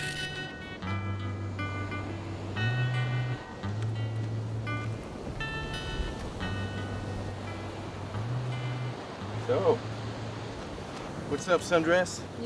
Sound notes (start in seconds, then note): 1.8 waves continue crashing